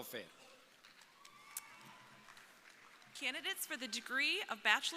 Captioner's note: crowd applauding